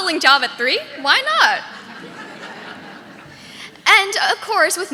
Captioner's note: audience laughing